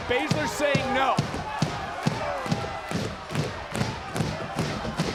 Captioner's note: audience pounding